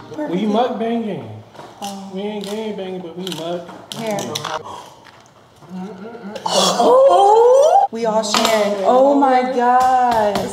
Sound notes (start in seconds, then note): 5.0 exclaiming; 9.4 tapping on table